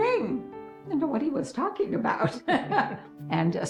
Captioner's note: laughs